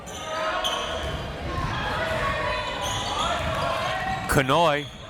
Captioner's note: crowd members shouting